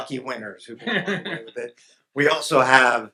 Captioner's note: audience laughs